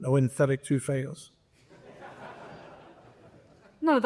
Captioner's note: laughter